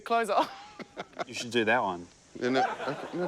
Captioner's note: both laugh